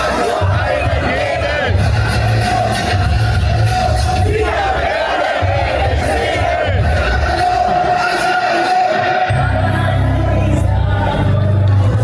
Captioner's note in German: Jubel